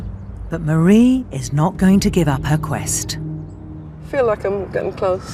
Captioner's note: voiceover